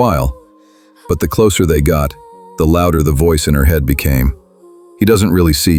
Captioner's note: internal voice